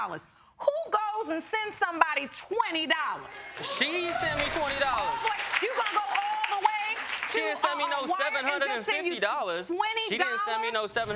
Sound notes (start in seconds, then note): 3.2 audience clapping